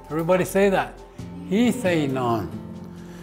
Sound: foreign language

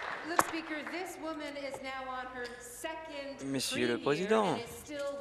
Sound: applause

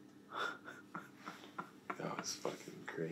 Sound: Rayleigh's laughter

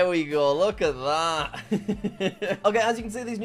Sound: laughing

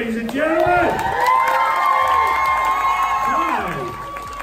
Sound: audience cheering

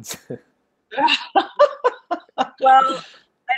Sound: laughing

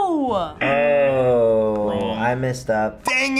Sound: buzzer rings

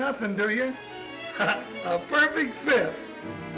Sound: chuckles

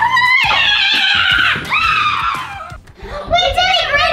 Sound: kids yelling

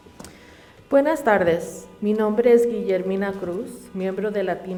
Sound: reading in Spanish

